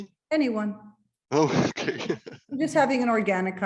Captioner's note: chuckles